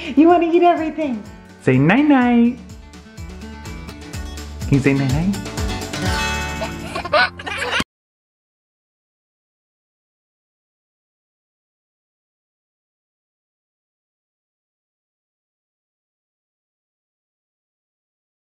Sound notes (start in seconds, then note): 5.7 upbeat music; 6.5 laughing